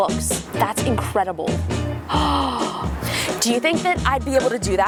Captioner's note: gasps